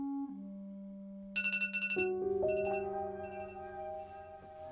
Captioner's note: phone alarm ringing; tense dramatic music